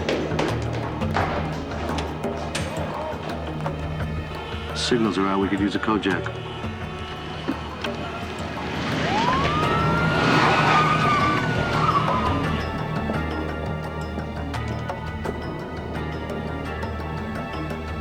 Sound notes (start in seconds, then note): 8.5 siren wailing